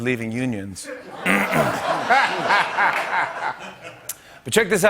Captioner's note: clears throat